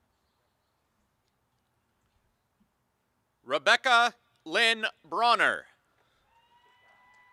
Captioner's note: applause; applause and cheering